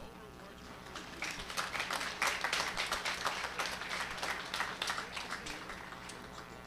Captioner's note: applause